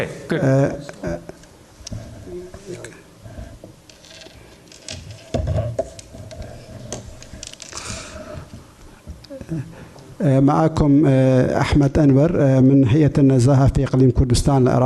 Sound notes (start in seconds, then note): 3.9 speaking in foreign language